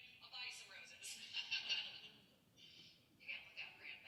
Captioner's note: laughs